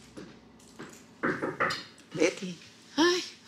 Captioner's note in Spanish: Toques en la puerta